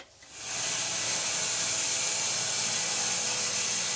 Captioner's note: saw whirring